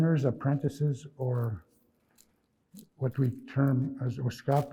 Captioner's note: speaking in Nêhiyawêwin; speaking in Nêhiyawêwin